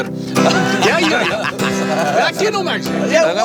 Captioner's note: laughter